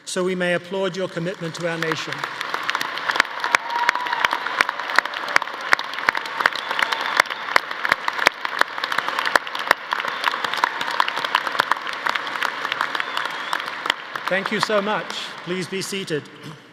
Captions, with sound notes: so we may applaud your commitment to our nation? (audience applauding) (audience cheering) Thank you so much. Please be seated.